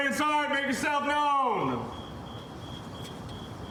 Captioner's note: crickets chirping